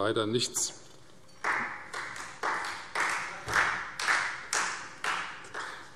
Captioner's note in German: Beifall Freie Demokraten